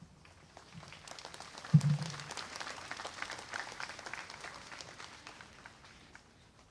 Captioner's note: applause